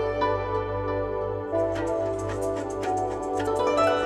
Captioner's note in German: Andächtige Musik; Leises Rasseln